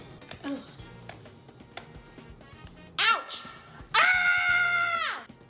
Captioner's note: scissors snip